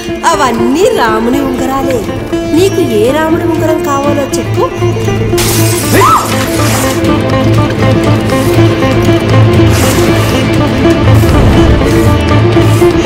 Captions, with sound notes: - all these rings are belonged to Lord Rama from different time lines.. -Tell me from which time line of Rama's ring you are looking for? (Screaming)